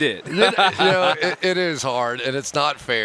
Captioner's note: laughter